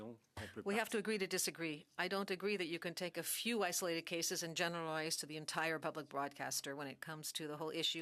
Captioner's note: speaking French